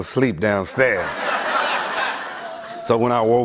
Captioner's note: laughter